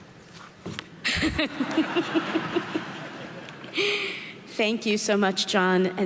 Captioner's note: laughs; audience laughing